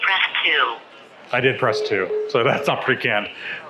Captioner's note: dial tone beeping